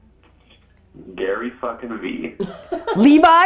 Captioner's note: group laughter